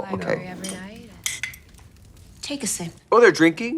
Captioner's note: glass clinking